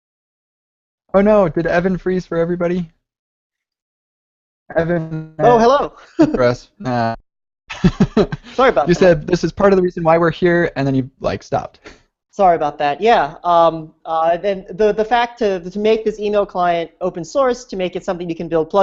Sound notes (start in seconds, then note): 6.7 audio warbling